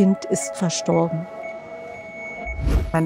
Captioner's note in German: Piepstöne